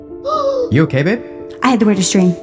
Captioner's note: gasps